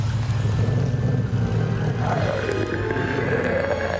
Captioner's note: monster growling